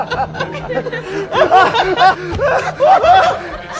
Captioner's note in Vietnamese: tiếng cười